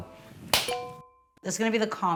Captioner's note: hands clapping; bell dinging